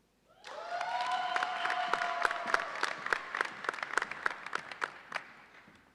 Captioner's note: audience cheers and applauds